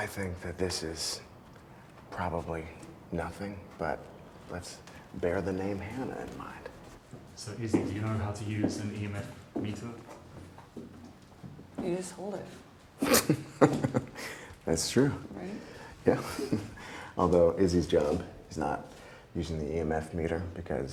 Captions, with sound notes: - I think, that this is probably nothing, but let's bear the name Hannah in mind. - Okay. So, Izzy do you know how to use an EMF meter? - You just hold it. (Wes giggling) - That's true. - Right? - Yeah. Although, Izzy's job is not using the EMF meter